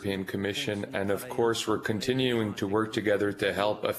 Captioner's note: speaking in French